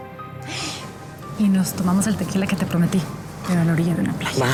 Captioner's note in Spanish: sonido al escupir